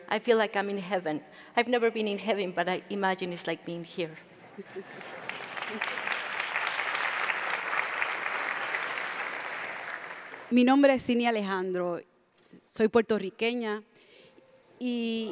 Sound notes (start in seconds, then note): 6.8 audience claps; 10.5 speaks in Spanish